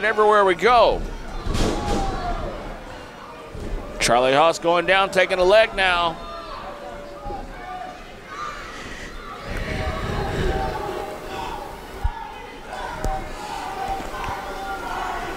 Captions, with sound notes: everywhere we go. Charlie Haas going down, taking a leg now. (crowd chanting)